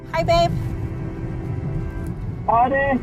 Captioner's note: caller speaking Navajo